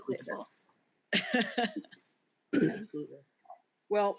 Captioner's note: laughs